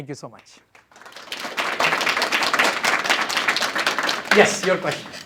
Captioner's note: applause